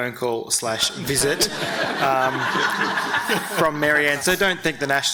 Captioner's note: audience laughing